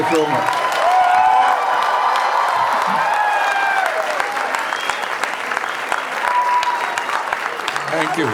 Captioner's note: crowd applauding